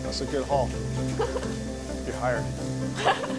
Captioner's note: laughs